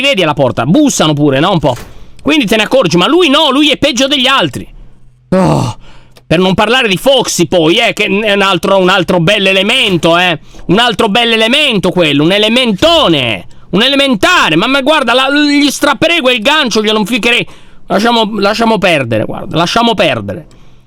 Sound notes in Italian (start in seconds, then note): 5.3 sospiro esasperato; 10.3 suoni di passi